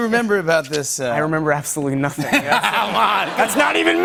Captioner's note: laughter